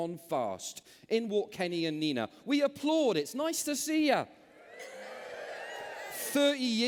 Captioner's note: cheers